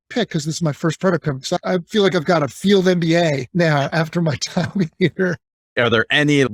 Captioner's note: chuckling